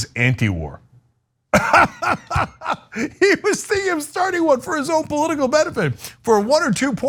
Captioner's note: laugh